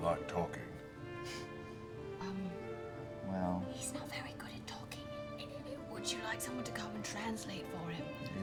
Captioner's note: whispering